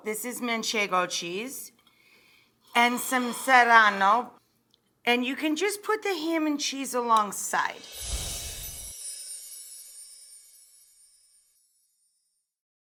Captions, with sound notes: This is manchego cheese and some serrano, and you can just put the ham and cheese alongside. (logo tinkling)